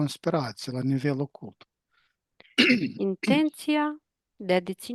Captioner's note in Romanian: voce dreasă